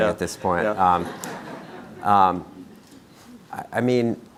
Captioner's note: crowd laughing